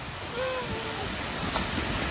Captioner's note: gasps